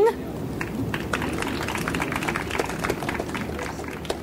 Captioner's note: audience applauds